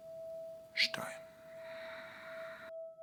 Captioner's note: exhale